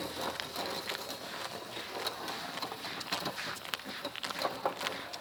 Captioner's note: footsteps shuffling